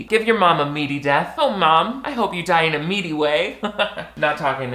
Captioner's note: chuckles